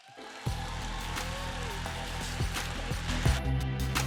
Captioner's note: applause